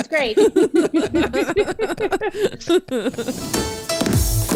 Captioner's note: laughs; upbeat music